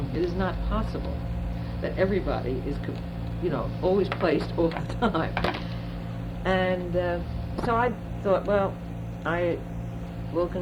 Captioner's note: laughs